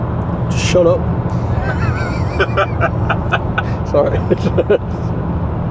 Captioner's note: laughs